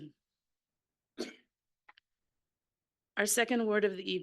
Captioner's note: clears throat